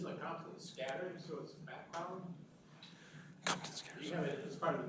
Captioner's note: whispers